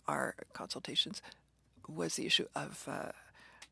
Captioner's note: speaking French